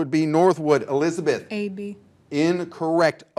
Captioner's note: buzzer buzzing